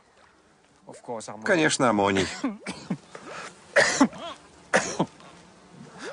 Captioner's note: coughs